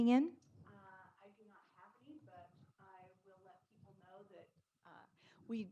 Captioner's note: speaking faintly